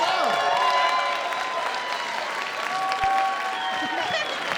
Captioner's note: cheering and applause